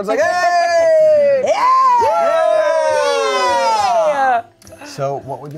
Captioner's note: everyone cheers